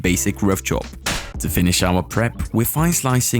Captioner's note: knife thudding